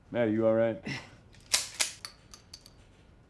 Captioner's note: gun clicks